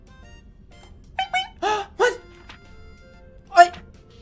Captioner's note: alert ping